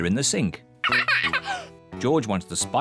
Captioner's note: laughs